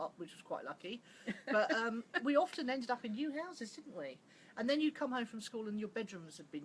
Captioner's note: laughs